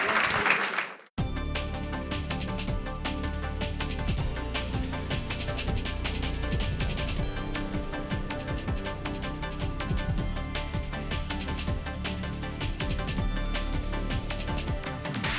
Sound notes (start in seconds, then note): 2.0 applause